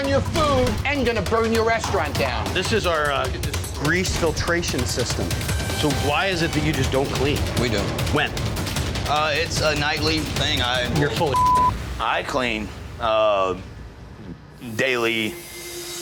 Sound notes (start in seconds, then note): 11.2 beep; 14.5 tense music